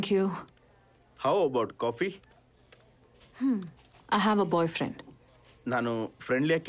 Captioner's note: sighs